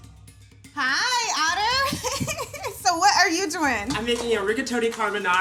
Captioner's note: laughs